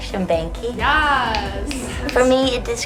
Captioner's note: snapping in agreement